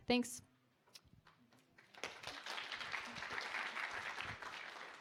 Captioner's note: applause